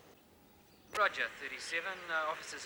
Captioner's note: police Officer On Radio